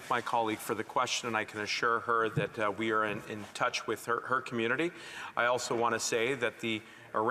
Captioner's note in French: voix de l'interprète